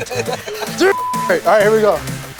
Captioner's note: laughter